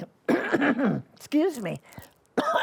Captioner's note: coughing